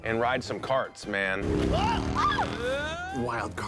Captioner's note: grunting, screaming